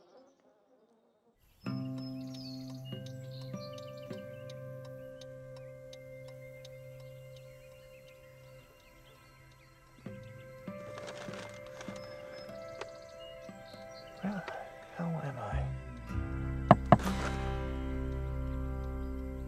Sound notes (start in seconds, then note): 1.4 gentle guitar music; 4.3 blinkers clicking